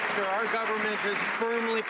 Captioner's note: some Applause